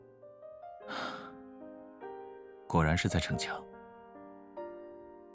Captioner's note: sighs